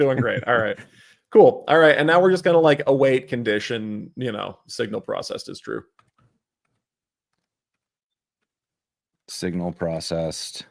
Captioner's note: laughter